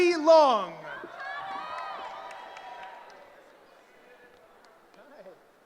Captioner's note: cheering